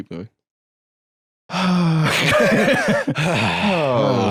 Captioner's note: sighs, laughs; both sighing